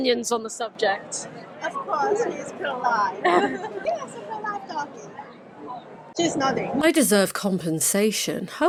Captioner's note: lady laughs